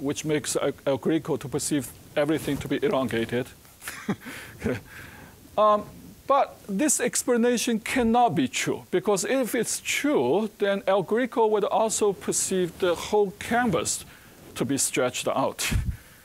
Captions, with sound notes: which makes El Greco to perceive everything to be elongated. (chuckling) But this explanation cannot be true, because if it's true, then El Greco would also perceive the whole canvas to be stretched out.